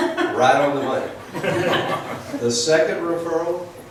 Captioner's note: laughs